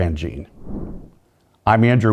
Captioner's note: air whooshing